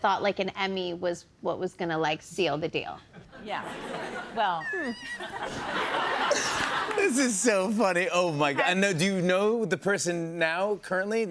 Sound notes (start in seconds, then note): 5.0 laughter